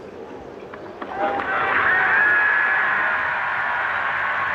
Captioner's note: audience cheering